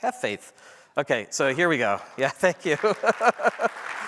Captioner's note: applause